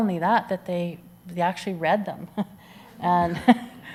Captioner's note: chuckles